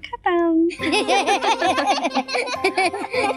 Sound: laughter

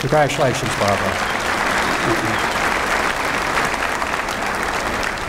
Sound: applause

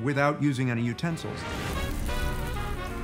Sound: sizzling

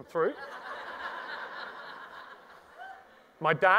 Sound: audience laughs

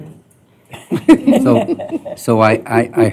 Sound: laughter

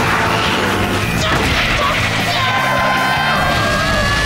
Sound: screaming

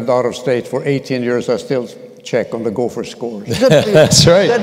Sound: laughter

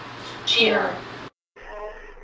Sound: voiceover

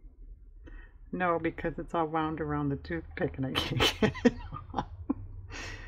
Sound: laughs

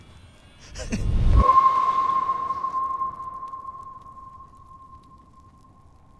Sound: very spacious ping

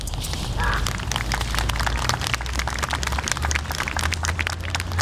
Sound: audience applauding

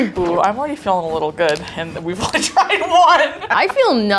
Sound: laughing

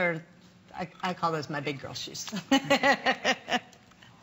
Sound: laughter

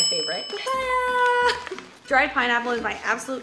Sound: dinging

